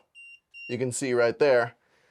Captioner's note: transmitter beeping